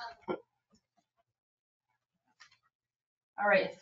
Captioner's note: all laughing